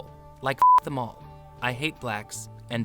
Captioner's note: beep